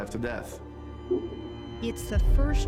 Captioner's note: flatline tone